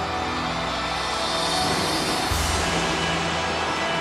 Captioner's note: audience cheers